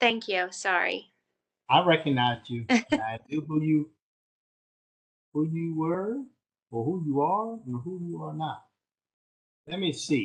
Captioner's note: laughter